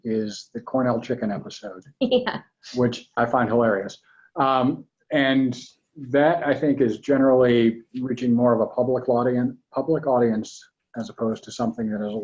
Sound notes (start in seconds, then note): 2.3 laughs